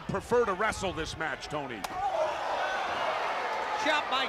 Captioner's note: crowd cheering